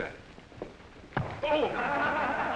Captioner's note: whack; laughter